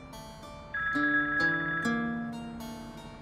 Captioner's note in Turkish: Telefon Çalıyor